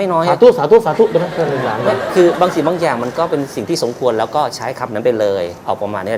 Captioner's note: laughter